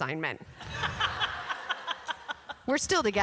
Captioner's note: laughter